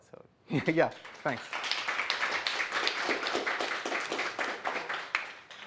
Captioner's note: applause